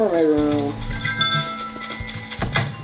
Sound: door bell chimes; door shuts

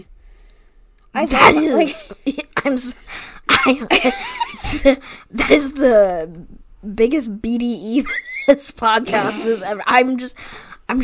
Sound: stammering

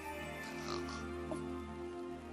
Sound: snorts

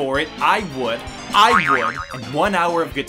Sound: boing SFX

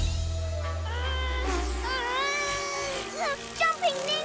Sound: groaning

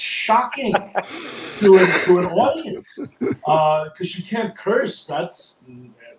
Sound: laughs

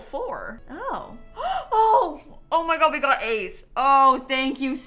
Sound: gasps

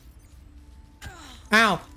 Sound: pained grunt

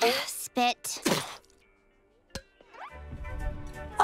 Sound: spitting

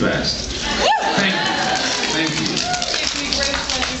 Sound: scattered cheers and applause

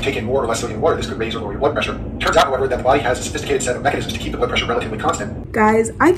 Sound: lecturer talking at 2x speed

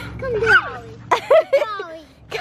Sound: laughing

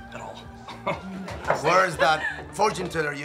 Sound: Ben chuckles

